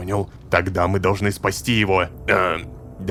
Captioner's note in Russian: шепотом